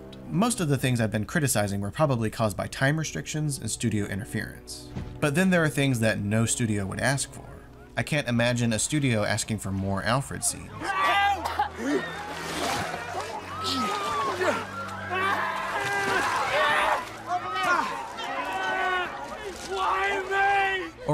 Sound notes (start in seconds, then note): 15.0 wailing; 18.3 screeching